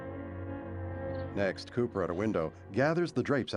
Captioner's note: crickets chirping